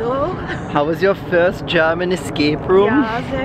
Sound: in a German accent

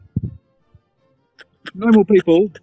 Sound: cackling

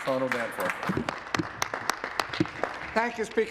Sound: applause

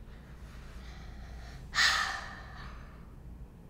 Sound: sighs deeply

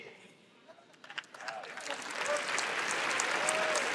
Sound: applause

